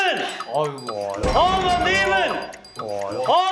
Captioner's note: the loud voice echoing in the studio